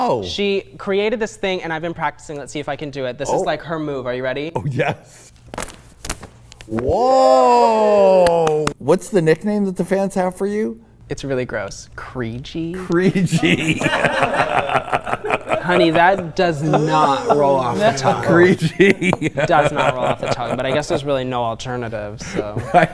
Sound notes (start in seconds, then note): 14.5 they laugh